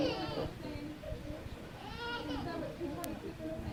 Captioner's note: chatter